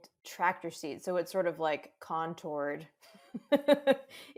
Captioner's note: laughs